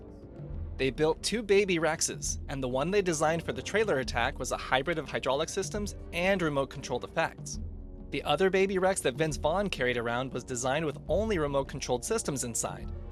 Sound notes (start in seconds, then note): none